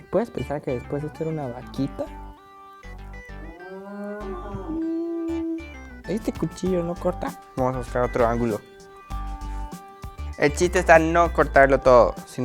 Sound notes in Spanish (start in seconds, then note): 3.3 mugido